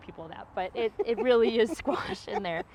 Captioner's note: laughs